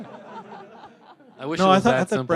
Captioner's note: laughter